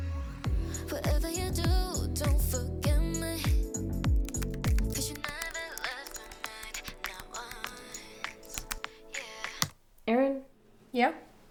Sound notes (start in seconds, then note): 0.8 pop music; 4.2 typing